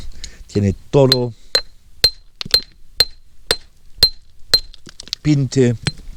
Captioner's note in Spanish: martillazos